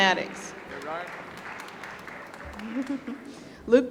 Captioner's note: applause